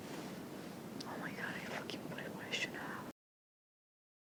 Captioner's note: whispering: Oh my God, I fucking put it where I shouldn't have